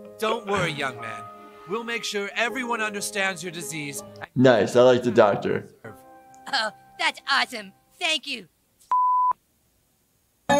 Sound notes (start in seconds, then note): 8.9 beep